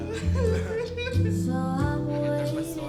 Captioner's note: crying but enjoying himself